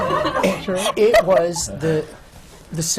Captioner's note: laughter